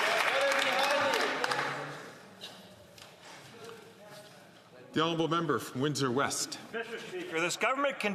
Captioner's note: some Applause